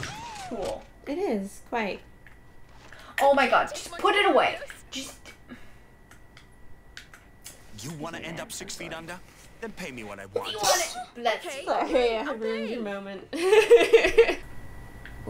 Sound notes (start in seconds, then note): 7.6 game audio; 10.4 sneeze; 13.3 laughter